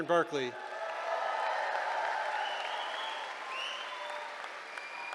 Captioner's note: cheering